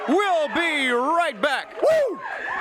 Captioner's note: crowd cheering